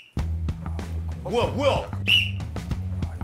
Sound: whistle

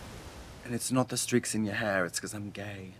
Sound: British accent

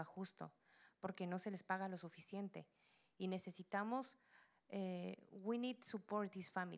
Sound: Spanish language

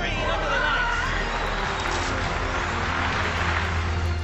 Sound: tires screeching

